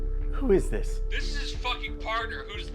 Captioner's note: on phone